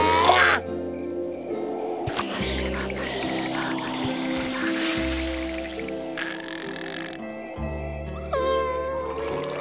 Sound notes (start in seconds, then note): 0.0 grunting; 2.1 shivering; 5.7 snoring